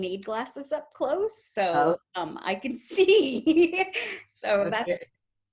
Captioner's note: laughs